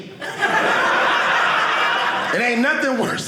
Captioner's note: audience laughing